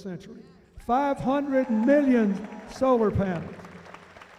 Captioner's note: cheering